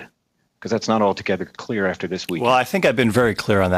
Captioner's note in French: voix de l'interprète